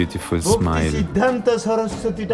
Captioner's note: non-english speech